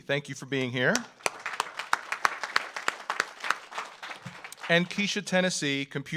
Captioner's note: audience applauds